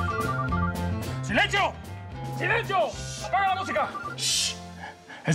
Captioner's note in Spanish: la otra línea timbra; suena el celular